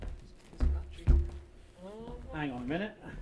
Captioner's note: floor thuds; heavy footfalls